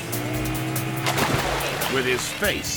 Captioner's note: water splashing